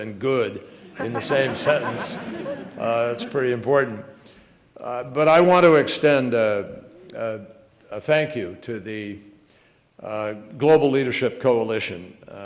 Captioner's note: laugther